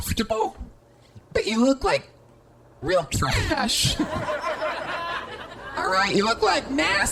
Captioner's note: audience laughter